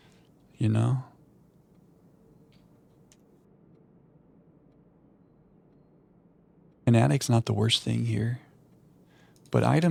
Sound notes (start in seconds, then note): 3.4 silence